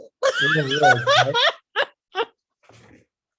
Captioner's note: laughs